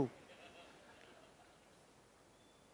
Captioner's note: laughing